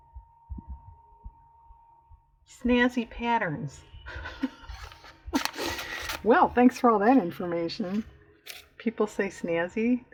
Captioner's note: laughs